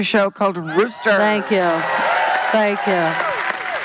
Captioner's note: audience cheering